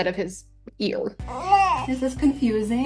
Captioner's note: crying